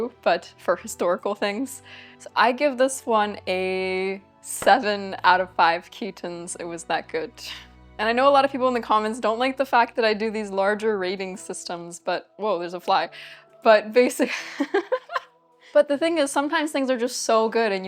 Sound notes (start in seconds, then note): 14.3 laughs